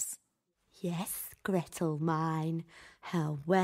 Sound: whispering to herself

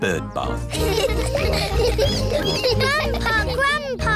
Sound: all laughing

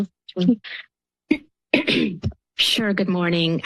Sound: clears throat

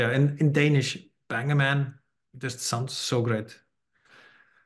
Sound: non-english

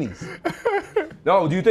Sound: laughter

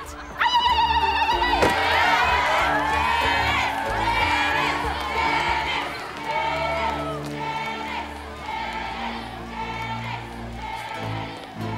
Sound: chanting

